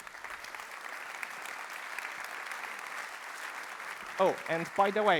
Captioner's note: applause